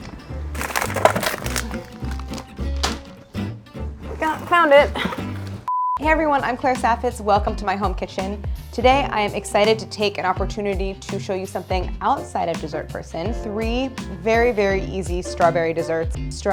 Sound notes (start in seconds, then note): 0.0 jaunty music; 0.4 bag crinkles; 5.8 scene beeps